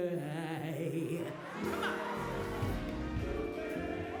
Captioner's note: crowd cheering